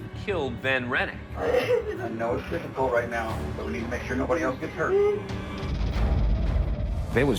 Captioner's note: sobbing